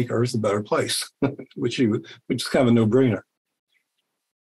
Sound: laughs

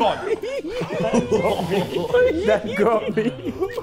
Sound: Sidemen laughing

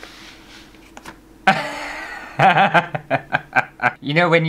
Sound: laughter

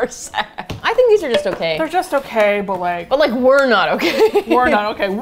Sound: laughing; laughs

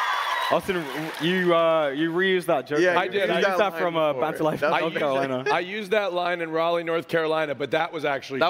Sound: applause

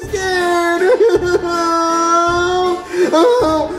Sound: cries

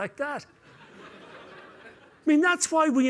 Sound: laughter

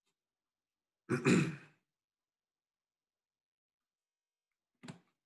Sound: clears throat

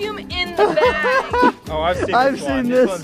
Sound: laughs

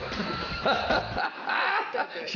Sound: man laughing

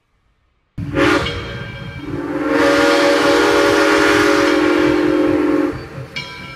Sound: steam whistle

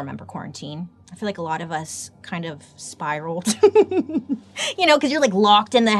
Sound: laughs

